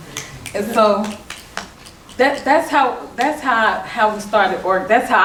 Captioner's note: clapping